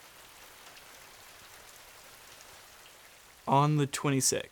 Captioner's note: rain spatters